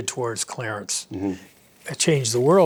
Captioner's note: pat